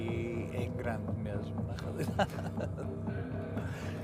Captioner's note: laughs